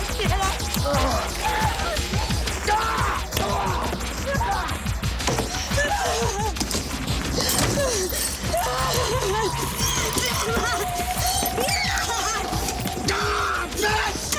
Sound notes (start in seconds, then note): 0.1 screaming; 1.4 grunting; 7.7 Jodie sobbing; 13.0 Graham yells